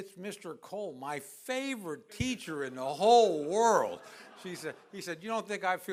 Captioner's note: laughter